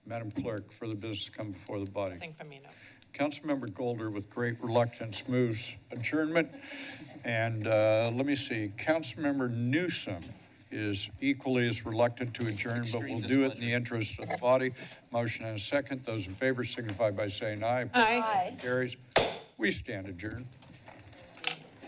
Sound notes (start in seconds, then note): 19.2 gavel tap